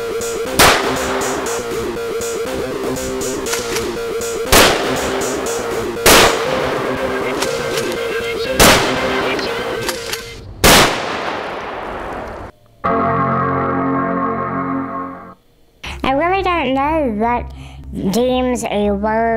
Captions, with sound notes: (gunshots blasting) (erratic music continues) (gentle tonal music) I really don't know what deems a word